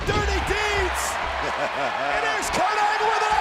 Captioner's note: laugh